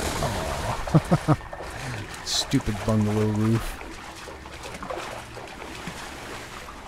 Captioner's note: chuckle